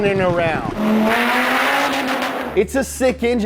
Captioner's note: car revs